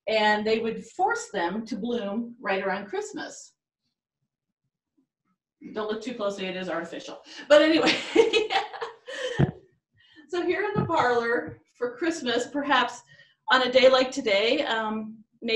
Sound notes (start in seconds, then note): 7.2 laughs